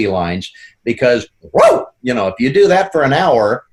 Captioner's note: barks